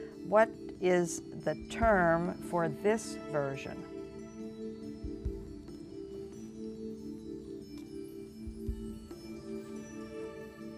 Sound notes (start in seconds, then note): 5.3 whispering